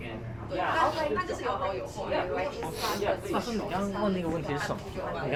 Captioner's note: speaking in foreign language